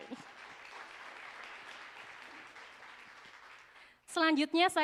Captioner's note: applause